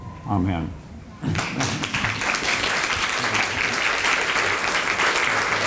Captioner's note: applause